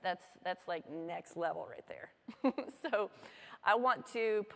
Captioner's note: laughter